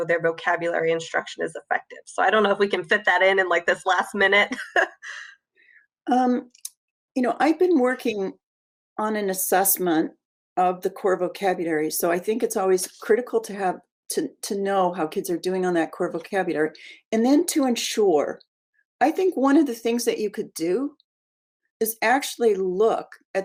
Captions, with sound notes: their vocabulary instruction is effective. So I don't know if we can fit that in in this last minute. (laughs) - I've been working on an assessment of the core vocabulary, so I think it's always critical to know how kids are doing on that core vocabulary, and then to ensure, I think one of the things that you could do is actually look